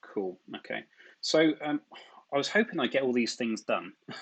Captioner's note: chuckles